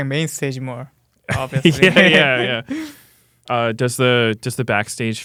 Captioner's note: laughs